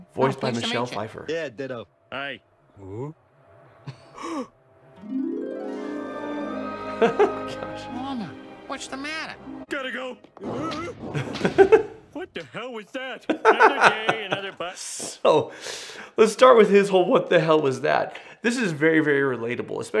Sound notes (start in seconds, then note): 4.3 Homer gasps; 13.2 laughs